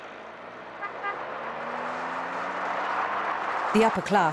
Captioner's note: car engine humming